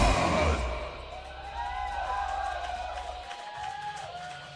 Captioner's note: clapping